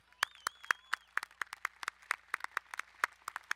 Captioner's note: applauding